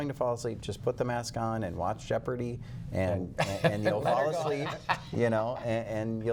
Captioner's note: laughter